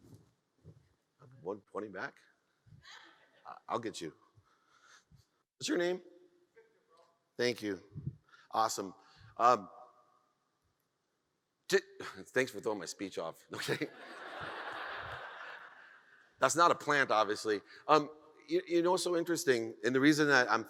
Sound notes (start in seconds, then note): 13.8 audience laughs